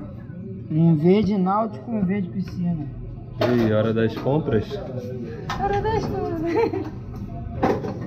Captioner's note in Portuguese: risos